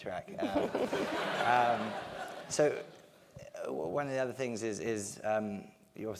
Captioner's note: laugh